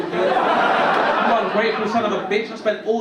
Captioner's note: audience laugh